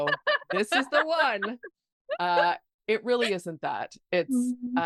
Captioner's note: laughing